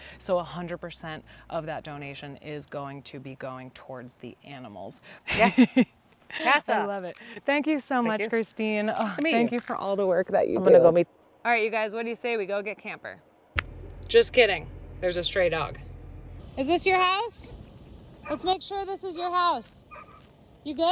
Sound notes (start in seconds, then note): 5.3 laughing; 13.4 snaps fingers